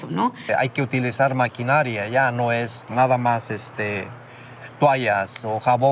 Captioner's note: speaking in Spanish